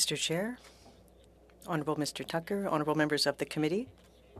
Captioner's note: speaking French